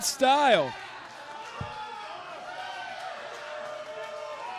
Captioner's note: audience cheering